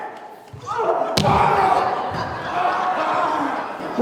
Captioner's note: body hitting; fans clapping